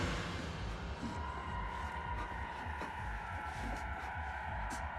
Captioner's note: escalated heart beats